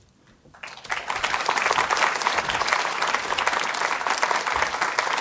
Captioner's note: audience applauding